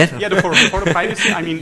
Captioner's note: laughs